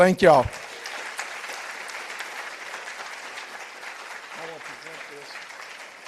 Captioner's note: participants applauding